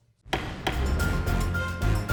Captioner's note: gavel bangs; lively music